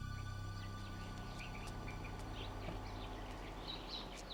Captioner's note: speaking in a foreign language; birds chirping